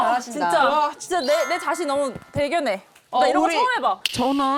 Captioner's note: proud sound effect